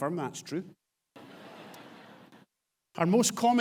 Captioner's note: audience laughs